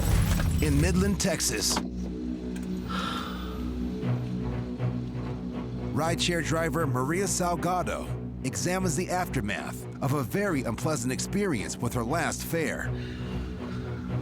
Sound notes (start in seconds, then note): 2.0 dramatic music playing; 2.8 woman sighs